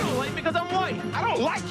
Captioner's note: car clashes